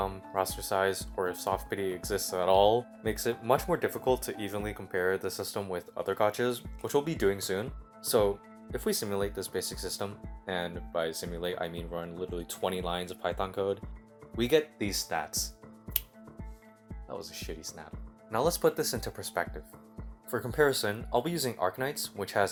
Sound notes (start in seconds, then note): 15.9 snap